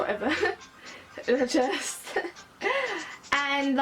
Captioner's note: laughs